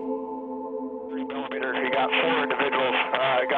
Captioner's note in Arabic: محادثة راديو عسكرية